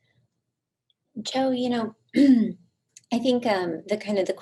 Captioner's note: clears throat